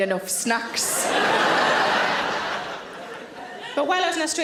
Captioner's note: audience laughing